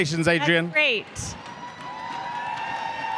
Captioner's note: cheers and applause